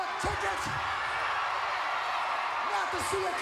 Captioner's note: crowd cheering